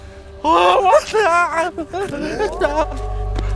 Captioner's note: yelps